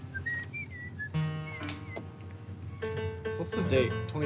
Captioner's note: whistling